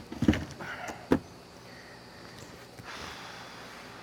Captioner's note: box hitting truckbed; sighing